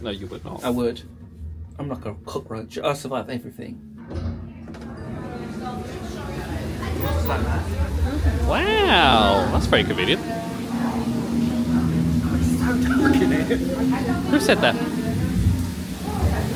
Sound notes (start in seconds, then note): 4.2 doors clunk